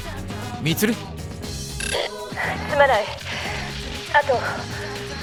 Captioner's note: through intercom